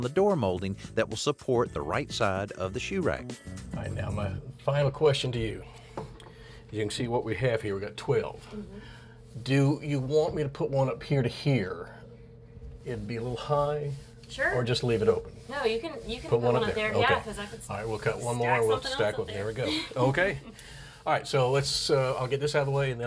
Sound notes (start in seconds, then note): 19.6 laughs